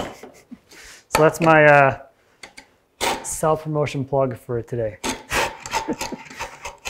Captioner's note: chuckles; tool scraping; laughs